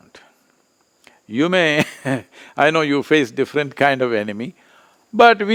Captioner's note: laughs